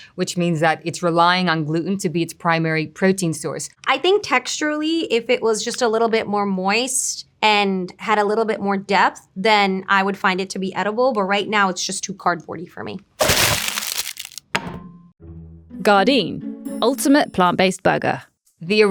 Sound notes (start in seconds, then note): 13.2 patty thudding; 13.2 plastic rustling